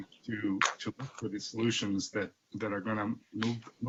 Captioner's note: distorted sound